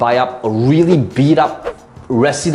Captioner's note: air whooshing